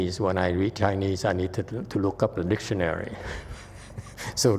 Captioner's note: chuckles